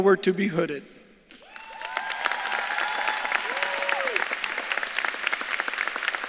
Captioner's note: audience claps and cheers